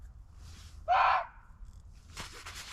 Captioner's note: muntjac barking